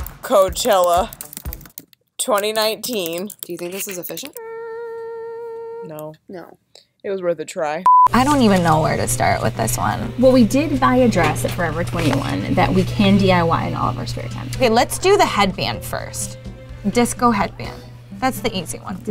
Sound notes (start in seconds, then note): 7.8 beeps